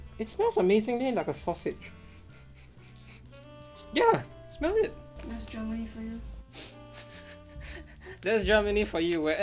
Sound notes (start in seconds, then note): 1.9 sniffing; 6.6 chuckles